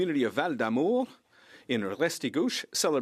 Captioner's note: speaking French